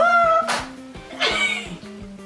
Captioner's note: laughs